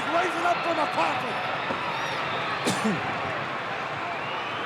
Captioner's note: crowd yelling